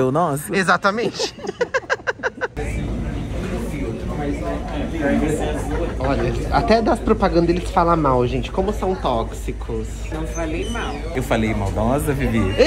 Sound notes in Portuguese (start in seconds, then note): 0.9 risos